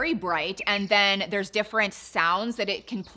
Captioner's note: birds chirping